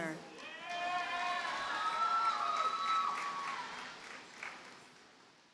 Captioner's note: audience cheers and applauds